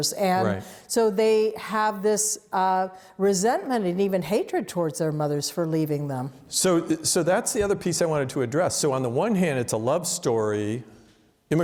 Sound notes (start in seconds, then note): none